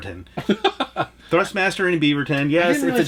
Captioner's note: laughs